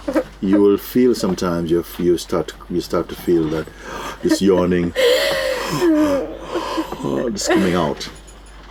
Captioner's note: yawns